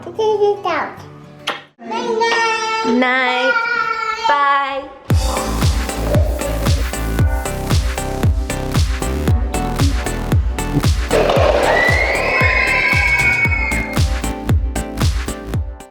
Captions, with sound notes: - J House out. - Night night. - Goodnight. - Bye! - Bye. (upbeat music) (kids squealing)